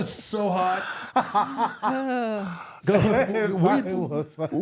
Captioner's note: laughing